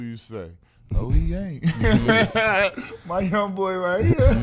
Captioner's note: laughs